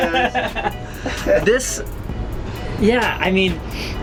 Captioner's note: laughing